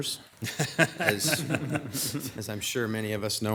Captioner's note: audience laughing